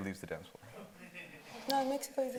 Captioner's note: attendee laughing